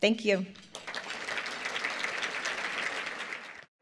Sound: applause

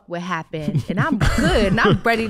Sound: laughing

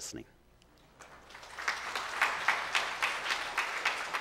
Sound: clapping

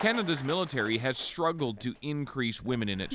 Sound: applause

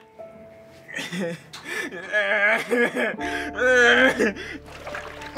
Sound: crying

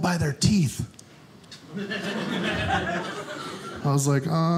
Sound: audience laughing

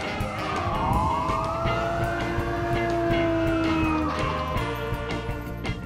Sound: siren; Rocky howls

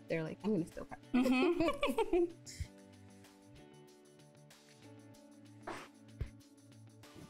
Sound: both laughing

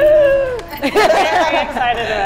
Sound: laughing

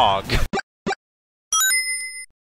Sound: ding!

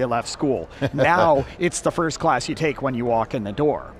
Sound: laughing

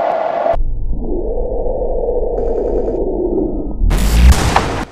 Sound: wind sound effect; slow mo sound effect; warping sound; ricochet

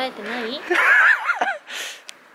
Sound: laugh

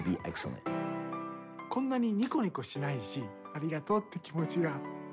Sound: man 2, speaking Japanese

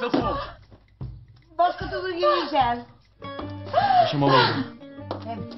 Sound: keeps crying

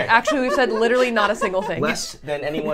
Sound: laughing

